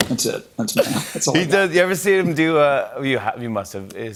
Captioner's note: laughs; normal voice